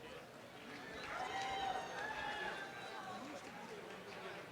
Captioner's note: applause